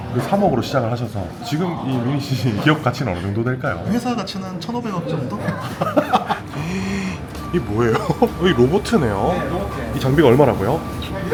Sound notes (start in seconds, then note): 5.2 laughs